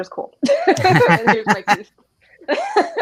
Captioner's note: laugh